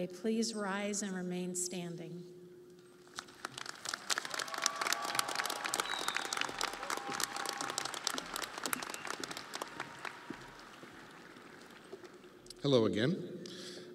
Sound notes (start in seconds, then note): 8.6 audience applauding